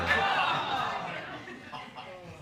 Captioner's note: audience exclaim